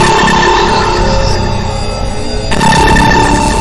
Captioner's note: lasers blasting